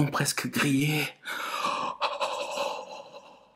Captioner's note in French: soupir